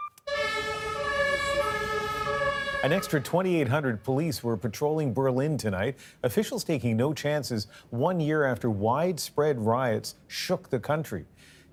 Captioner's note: sirens